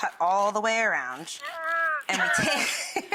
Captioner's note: groaning; laughing; giggling